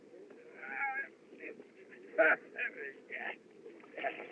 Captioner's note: groaning